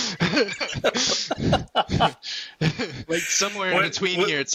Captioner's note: laughter